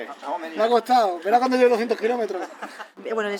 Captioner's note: Spanish